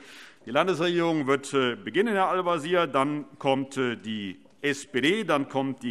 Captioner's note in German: none